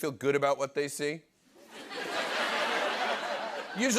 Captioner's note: laughter